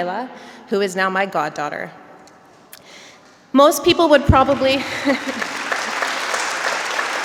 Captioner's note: applause